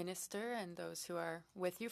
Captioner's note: speaking French